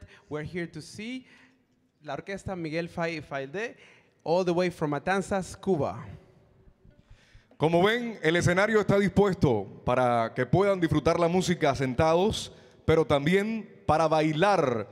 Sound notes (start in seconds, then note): 7.7 MC speaking in Spanish